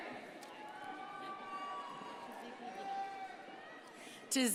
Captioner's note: crowd cheering and applauding